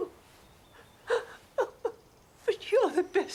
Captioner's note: crying